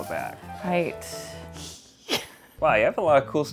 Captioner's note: mischievous laugh